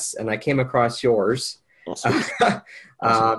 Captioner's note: laughs